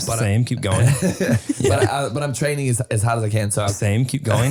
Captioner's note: laughing